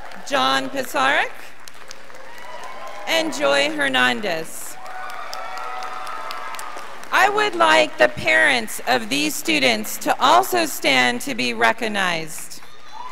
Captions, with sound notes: John Pisarek, (scholars applauding) and Joy Hernandez. (graduated applauding) I would like the parents of these students to also stand to be recognized.